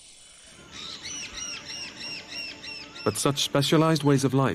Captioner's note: birds chirping